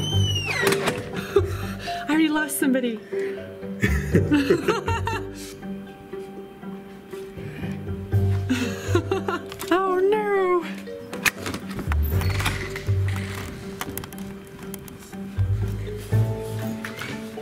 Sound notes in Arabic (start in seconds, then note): 0.1 الموسيقى متفائلا; 3.8 ضحك; 3.8 يضحك; 8.4 ضحك; 12.3 موسيقى درامية